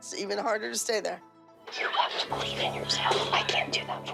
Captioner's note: whispers